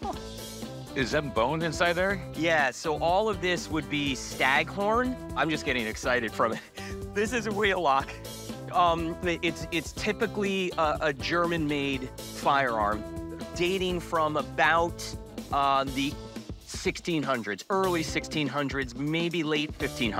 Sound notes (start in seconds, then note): 6.2 chuckles